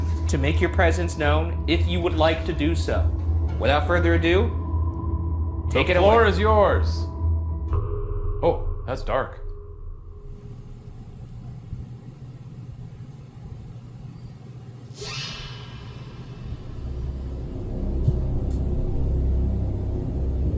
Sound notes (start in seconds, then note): 15.0 whistle; 16.6 dramatic music